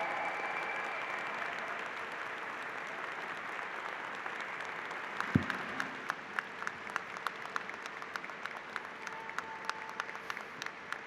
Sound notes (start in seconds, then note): 0.7 applause